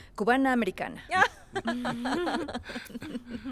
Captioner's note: Caridad, Faith y Víctor ríen